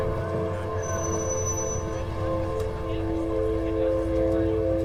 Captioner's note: chattering